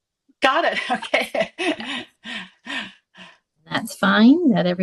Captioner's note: laughs